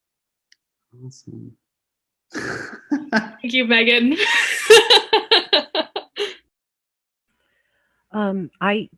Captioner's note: laughs